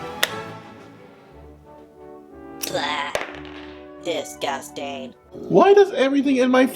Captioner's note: groans